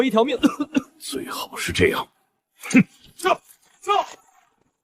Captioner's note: cough cough